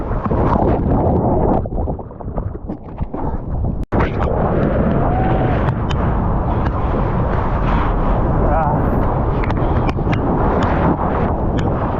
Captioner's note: wind